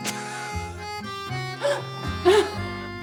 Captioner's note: gasps; laughs